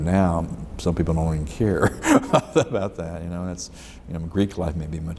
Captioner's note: laughs